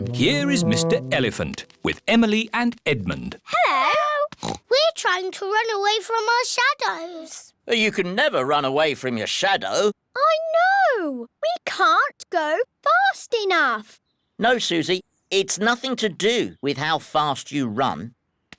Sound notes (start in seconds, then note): 4.4 oinks